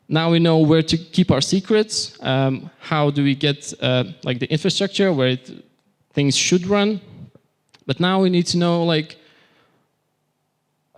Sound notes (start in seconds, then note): none